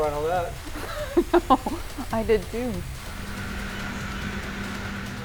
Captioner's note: laughs